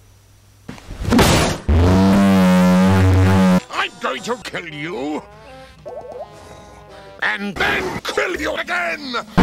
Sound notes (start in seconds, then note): 1.1 The table-bashing noise from that one cutscene in Yakuza Kiwami 2